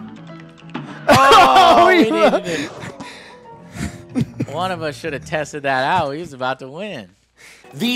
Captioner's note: incoherent crying